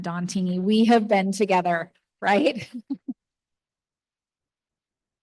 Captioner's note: chuckles